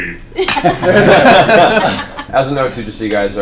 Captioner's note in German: Gelächter